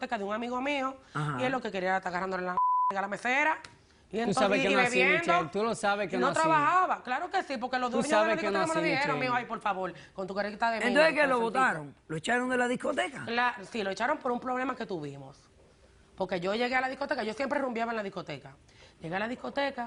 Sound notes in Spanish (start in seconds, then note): 2.5 Bip